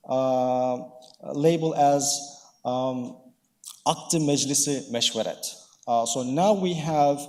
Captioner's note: speaking in foreign language